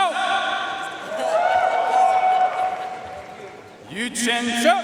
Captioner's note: audience cheering and applauding